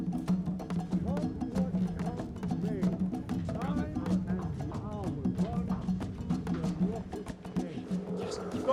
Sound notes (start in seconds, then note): 1.0 indistinct chatter